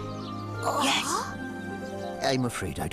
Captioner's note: gasps